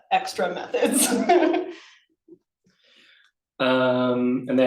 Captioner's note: laughs